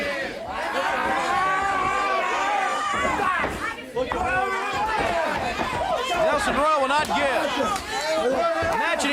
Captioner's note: crowd cheering